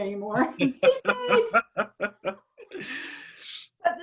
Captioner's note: laughter